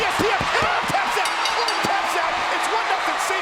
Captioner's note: bell rings